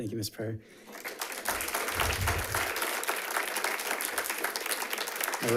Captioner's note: audience applauds